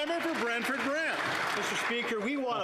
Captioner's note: applause